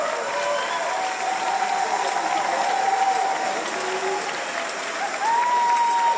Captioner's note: applause and cheers